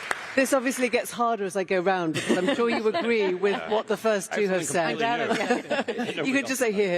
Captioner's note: applause